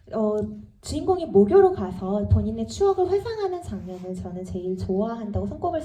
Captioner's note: speaks in foreign language